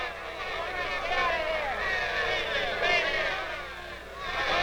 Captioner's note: shouting faintly